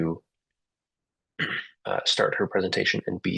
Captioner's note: interpreter clears throat